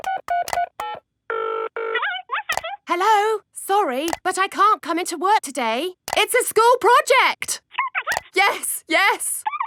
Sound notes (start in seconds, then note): 0.0 dials phone; 1.9 on phone